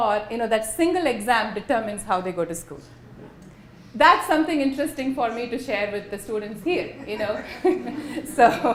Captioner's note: laughter